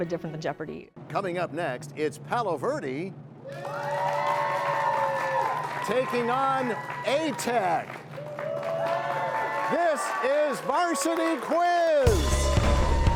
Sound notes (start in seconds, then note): 4.0 cheers and applause; 8.6 cheers and applause